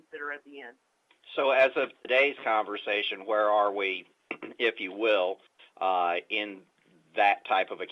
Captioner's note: clears throat